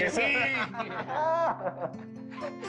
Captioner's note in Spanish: Risas